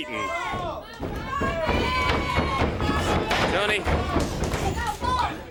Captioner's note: crowd chatter